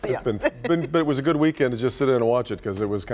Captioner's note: laughter